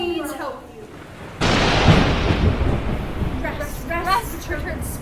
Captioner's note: thunder rumbles